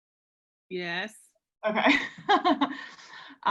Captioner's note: laughs